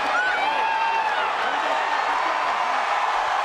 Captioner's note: crowd cheers